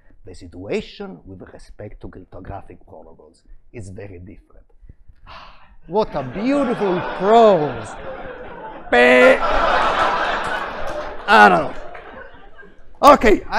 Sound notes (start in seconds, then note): 9.1 laughter